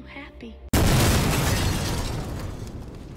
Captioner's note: boom